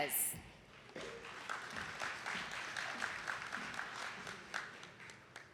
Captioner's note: attendees clapping